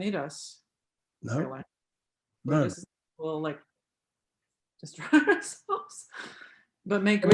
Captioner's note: laughs